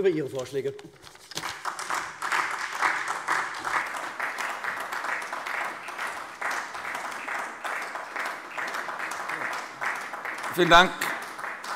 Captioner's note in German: Beifall SPD